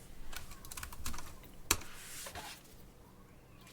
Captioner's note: keys clicking